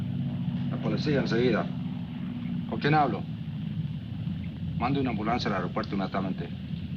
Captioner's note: officer speaking in foreign language